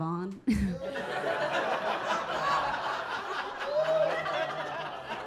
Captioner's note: audience laughing